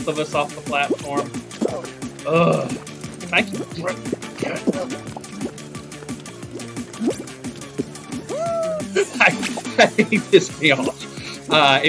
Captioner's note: groan; laughs